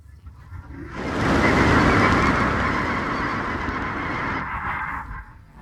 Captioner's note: bird calls, rush of wings